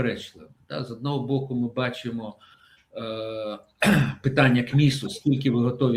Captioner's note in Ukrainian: прочищення горла